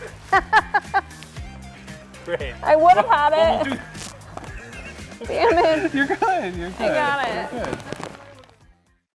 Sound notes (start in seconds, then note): 0.2 laughing; 4.4 laughing; 8.4 sack rustling